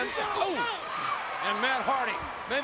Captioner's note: audience cheering